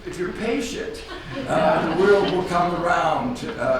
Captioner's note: audience laughs